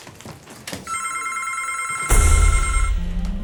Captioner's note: phone ringing; suspenseful music